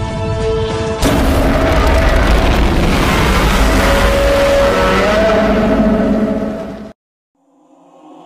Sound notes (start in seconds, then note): 1.1 Godzilla Minus One roars; 7.7 chorus sings